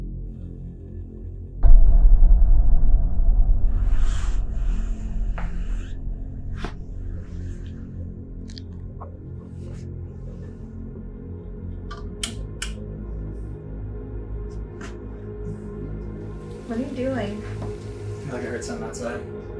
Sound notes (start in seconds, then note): 1.6 echo Drum Hit; 11.9 light Switch